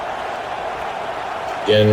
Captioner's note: crowd Noises